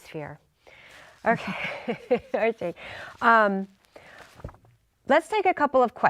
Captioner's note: laughing